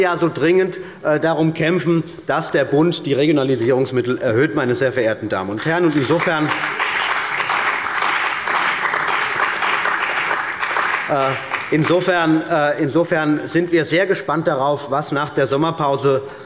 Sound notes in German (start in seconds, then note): 5.6 Beifall bei Abgeordneten der CDU und des BÜNDNISSES 90/DIE GRÜNEN